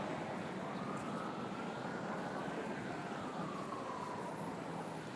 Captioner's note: distant sirens